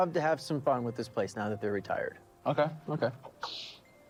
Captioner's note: sniffles